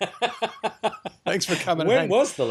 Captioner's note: laughs